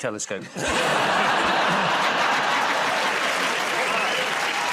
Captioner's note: laughter